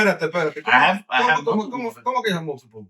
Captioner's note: speaking In Foreign Language